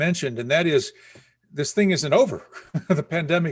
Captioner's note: chuckles